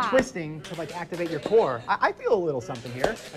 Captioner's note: clapping